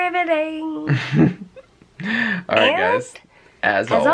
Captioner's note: chuckles